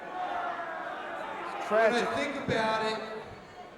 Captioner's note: crowd chatter